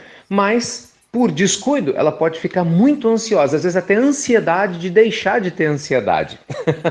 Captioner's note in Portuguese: Risos